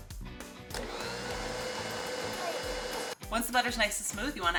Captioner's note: mixer whirring